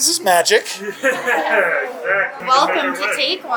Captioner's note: chuckling